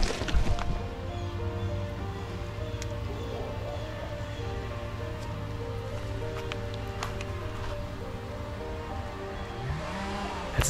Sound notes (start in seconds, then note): 1.2 bird cawing; 3.8 gentle music continues